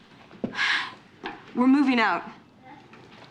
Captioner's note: sighing